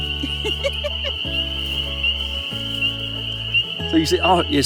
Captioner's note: woman laughs